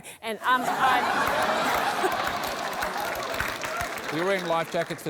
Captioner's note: laughter, applause